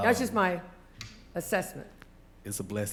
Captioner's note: none